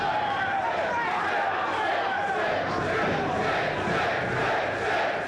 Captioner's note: crowd chants "Sid"